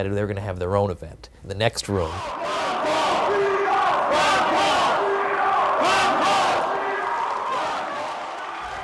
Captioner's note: crowd chanting; cheering